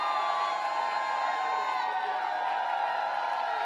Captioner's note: applause